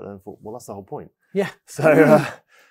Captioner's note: laughs